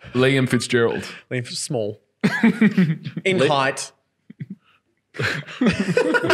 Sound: laughing

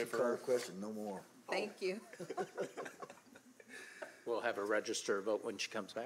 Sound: laughter

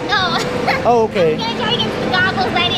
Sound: laughs

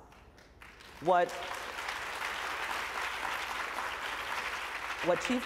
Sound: applause

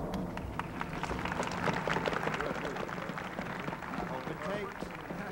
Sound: crowd applauding

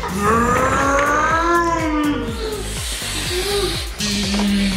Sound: mimicking airplane engine

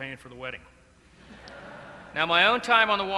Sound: laughter

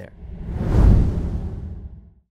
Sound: air whooshing

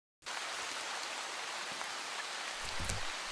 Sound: rain falling

